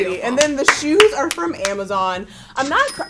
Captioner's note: cash register rings